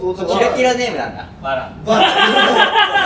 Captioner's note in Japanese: 爆笑